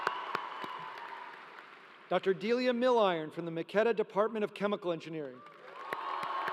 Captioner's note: applause